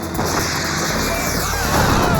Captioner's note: missiles firing; screaming